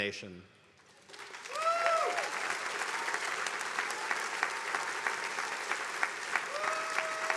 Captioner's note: attendees applauding